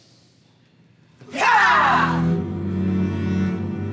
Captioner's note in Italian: una donna urla